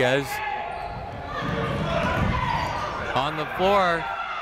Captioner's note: people shouting in the crowd